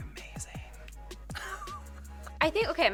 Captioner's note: laughs